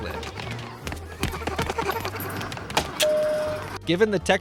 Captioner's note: fast paced plastic straw rubbing sound